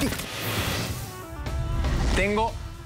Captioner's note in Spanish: golpes